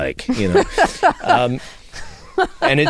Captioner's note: laughter